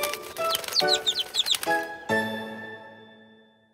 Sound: chirping

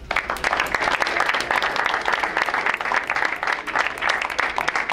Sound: crowd applauds

